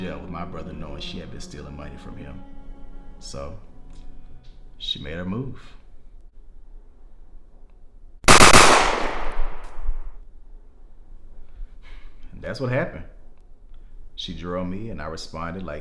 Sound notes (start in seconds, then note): 8.2 gunshots fire